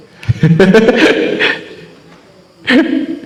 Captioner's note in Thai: เสียงหัวเราะ